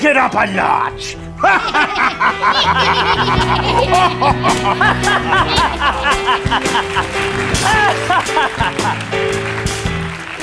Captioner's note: evil laughter